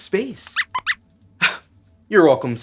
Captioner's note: squeaks squeaks